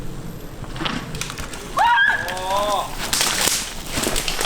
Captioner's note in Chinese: 尖叫